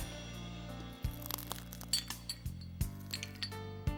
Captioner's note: glass crunching; soft music